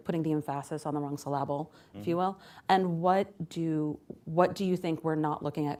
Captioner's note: intentionally mispronounces